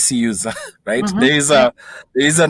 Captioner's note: chuckles